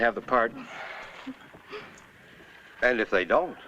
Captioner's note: sigh